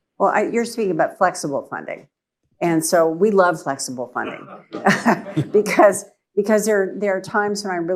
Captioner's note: laughter